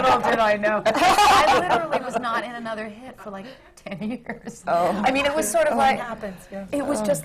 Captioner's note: laughter